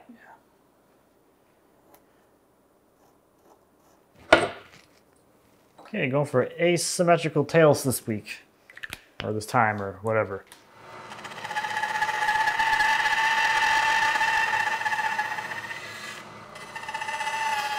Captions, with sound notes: Yeah. Okay, going for asymmetrical tales this week, or this time, or whatever. (machine whirring)